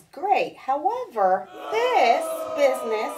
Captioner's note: people booing